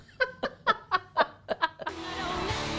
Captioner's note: laughter